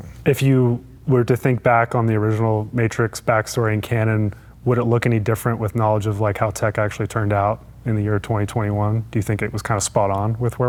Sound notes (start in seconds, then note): none